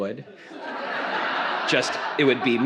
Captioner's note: audience laughs